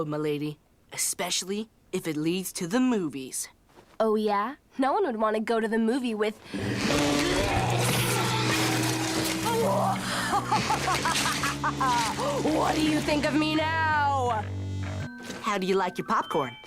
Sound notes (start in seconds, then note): 10.1 laughter